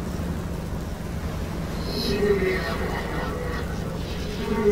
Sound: distorted Voices

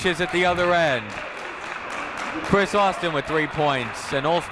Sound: clapping

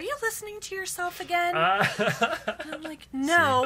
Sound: laughs

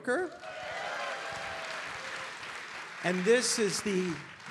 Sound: audience applauding

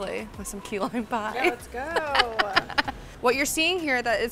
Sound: laughing

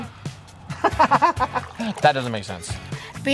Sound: laughs

